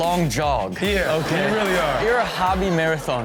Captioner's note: audience laughs